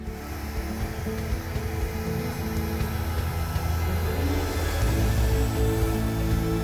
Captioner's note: blow dryer blowing; soft acoustic music